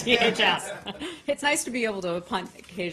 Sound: laughter

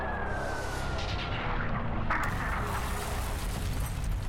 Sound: sirens wailing; explosions; glass smashing

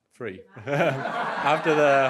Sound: crowd giggles

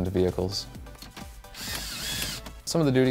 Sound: drill sound

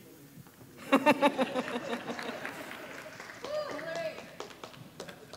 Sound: audience applauding

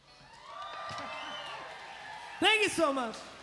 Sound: crowd cheering

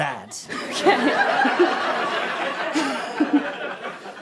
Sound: audience laughter

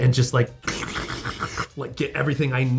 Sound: matrix noises

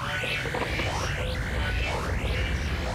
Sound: <i> rumbling</i>

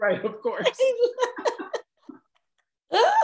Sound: laughs

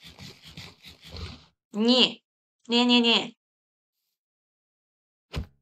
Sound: none

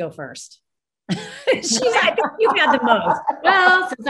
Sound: panel laughs

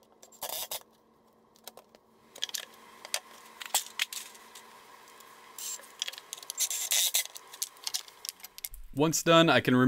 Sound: sped-up Impact Drill Sounds

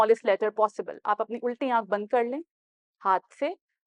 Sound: in Urdu

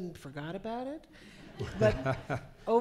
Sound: laughing

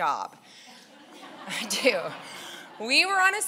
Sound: laughing

